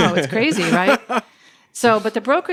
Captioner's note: laughs